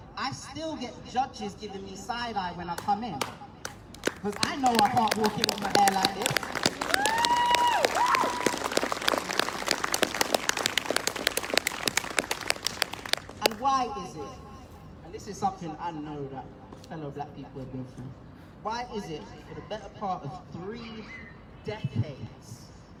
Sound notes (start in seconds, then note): 3.3 applause; 6.7 whooping; 8.8 applause